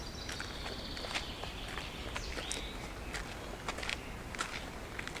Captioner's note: footsteps